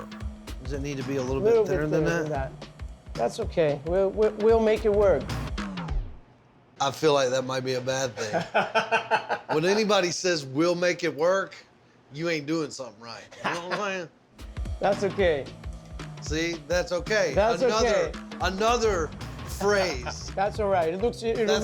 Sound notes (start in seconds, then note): 6.5 laughs; 13.3 laughs